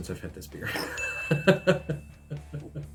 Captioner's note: laughs